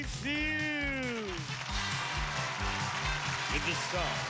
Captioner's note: cheers and applause